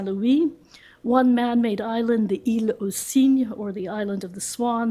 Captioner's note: french